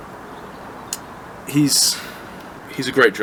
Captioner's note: clicks tongue